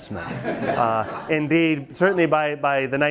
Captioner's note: students laugh